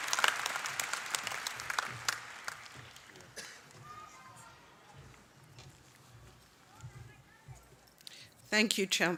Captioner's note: applause